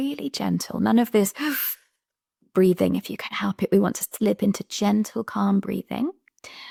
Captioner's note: sharp intake